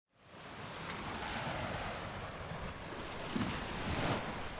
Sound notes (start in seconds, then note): 0.4 sea waves lapping